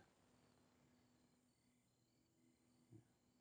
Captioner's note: crickets chirping